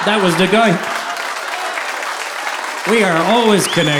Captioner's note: audience applauding